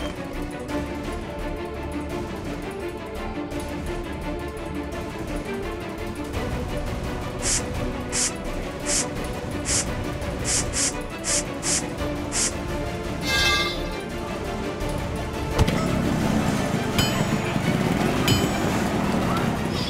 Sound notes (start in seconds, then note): 7.4 spraying; 13.1 clanking; 15.4 thudding